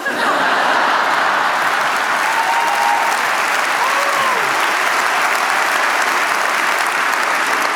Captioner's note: laughter, applause